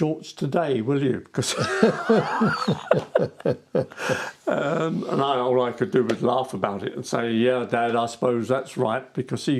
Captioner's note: laughing